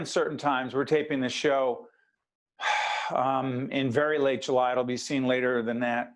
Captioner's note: sigh